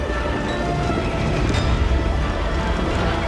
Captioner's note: horses galloping